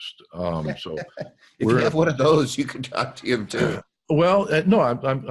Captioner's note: laughs